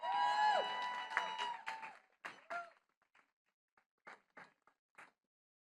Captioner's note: attendees cheering and clapping